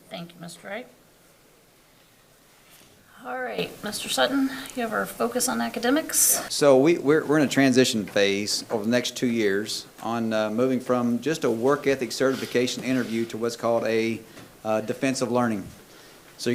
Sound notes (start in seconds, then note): none